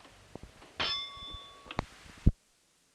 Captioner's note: bell Sound